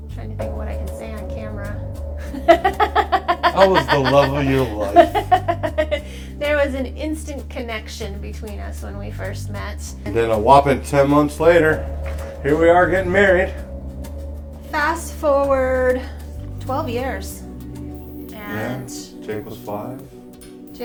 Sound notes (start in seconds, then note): 2.7 laughter